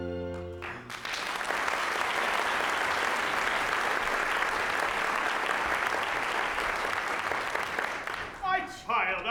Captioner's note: applause